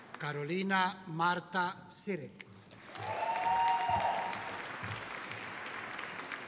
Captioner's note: audience cheering